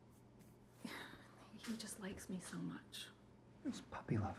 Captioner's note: sighing